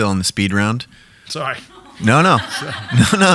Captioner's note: audience laughing